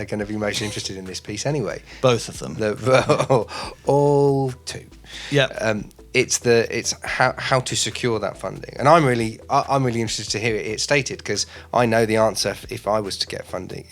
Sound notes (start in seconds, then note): 2.8 speaker laughing